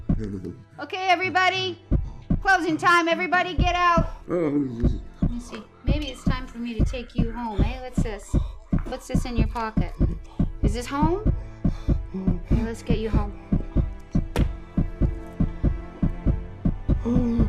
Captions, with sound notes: Okay, everybody. Closing time, everybody get out. Let me see. Maybe it's time for me to take you home. Hey, what's this? [heart beats escalating] What's this in your pocket? Is this home? Let's get you home. [struggling to breathe] [tense music]